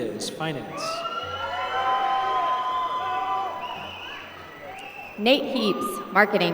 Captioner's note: applause